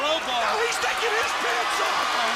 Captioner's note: crowd cheering